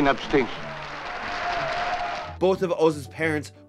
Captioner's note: group cheering